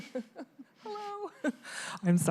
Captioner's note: laughter